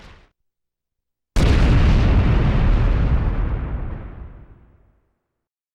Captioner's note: booming